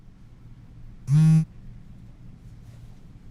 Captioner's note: celular vibra